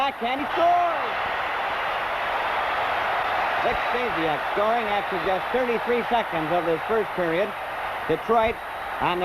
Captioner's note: crowd cheers